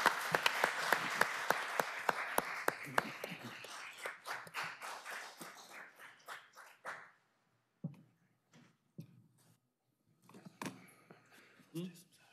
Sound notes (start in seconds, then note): 0.0 applause